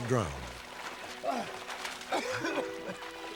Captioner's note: heavy breathing; coughing